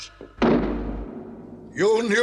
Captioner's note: door slams